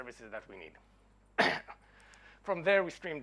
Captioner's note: clearing throat